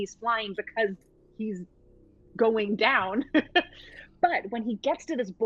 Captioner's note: laughs